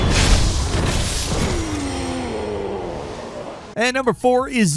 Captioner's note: swords clanging; combatants grunting